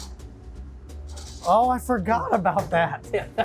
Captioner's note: laughs